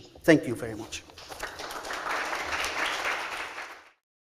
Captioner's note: applause